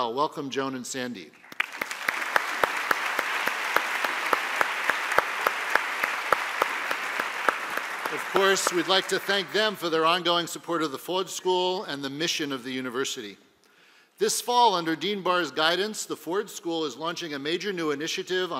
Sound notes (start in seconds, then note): 1.4 applause